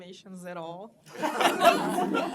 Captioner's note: laughter